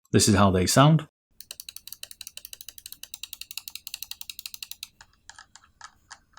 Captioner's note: mouse clicking